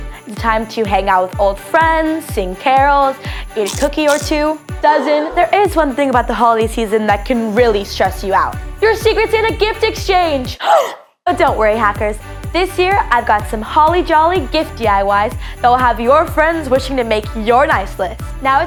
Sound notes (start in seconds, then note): 3.6 cookies crunching; 10.9 gasps